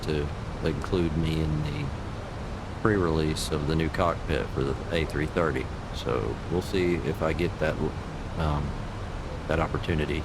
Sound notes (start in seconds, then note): none